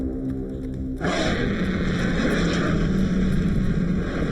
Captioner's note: shark roaring